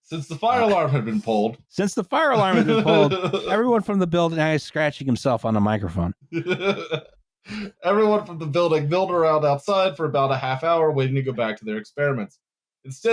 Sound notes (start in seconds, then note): 6.3 chuckles